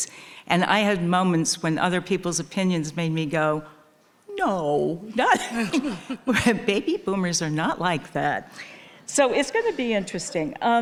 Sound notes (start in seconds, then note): 5.3 people laughing